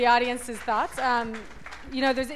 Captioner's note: applause